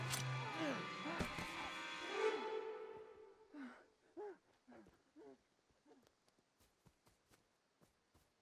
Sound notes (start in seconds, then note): 3.5 gasping